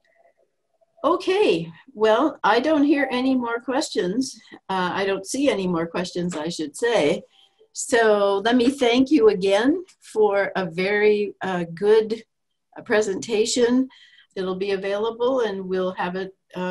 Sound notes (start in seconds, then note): none